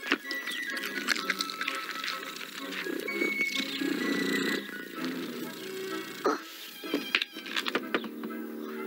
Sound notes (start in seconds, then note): 3.6 purring